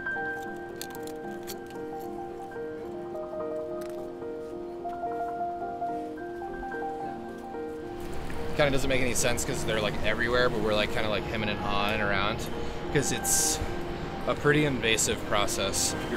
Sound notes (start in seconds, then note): 0.2 scraping